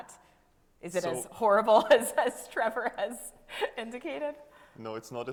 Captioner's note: chuckling